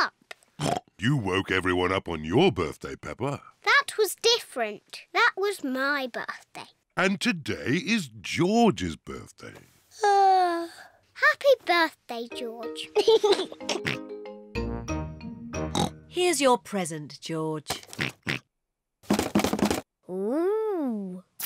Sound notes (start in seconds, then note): 0.6 oinks; 9.7 yawns; 12.9 laughs and oinks; 15.7 oinks; 18.0 oinks; 18.8 rattles